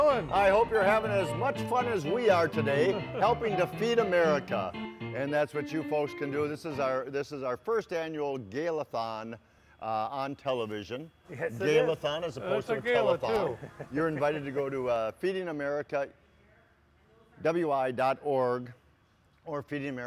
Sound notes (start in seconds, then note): 2.8 laughs; 12.6 laughs